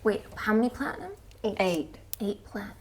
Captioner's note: none